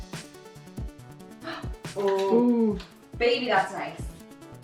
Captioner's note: gasping